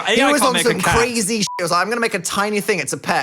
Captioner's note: beep